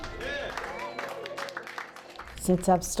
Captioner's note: clapping